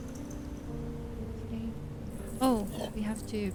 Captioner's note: whispers